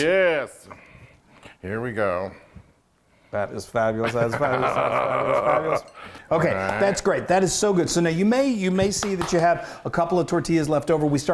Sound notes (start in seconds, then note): 4.0 guttural laughter